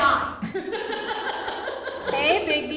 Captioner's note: laughing